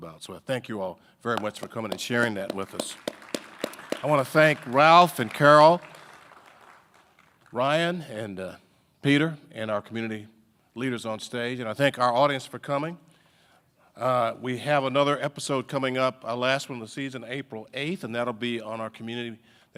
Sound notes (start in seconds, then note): 1.3 audience applauding